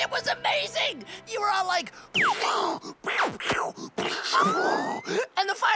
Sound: mimicking explosion sounds

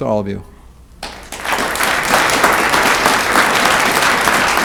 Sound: audience clapping

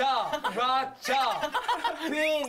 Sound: haha

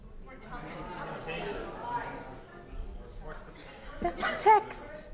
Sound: audience murmuring

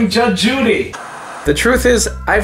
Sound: static hissing

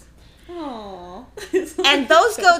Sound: laughing

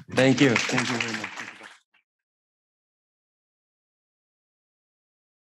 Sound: people clapping

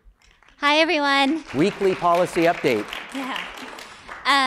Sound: applause; laugh

